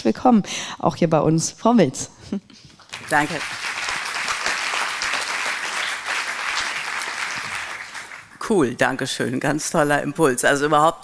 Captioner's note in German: applaus